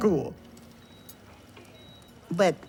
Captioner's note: monitor beeps faintly